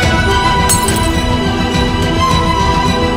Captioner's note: Bottle shattering